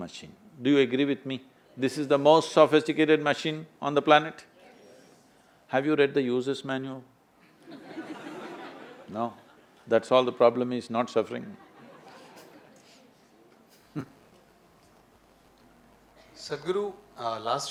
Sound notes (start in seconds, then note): 7.5 few laugh; 11.6 laughs